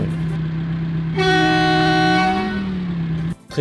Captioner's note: big honk